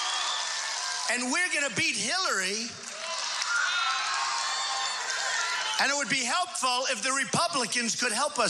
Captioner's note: applause/cheering